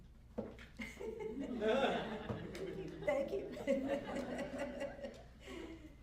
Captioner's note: laughter